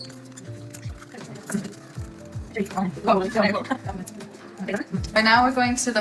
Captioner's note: accelerated sound of cotton bud wiping petri dish